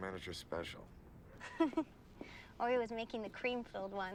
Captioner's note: laughing